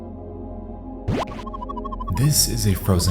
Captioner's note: warbling sound